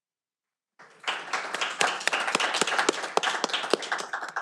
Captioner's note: audience applauding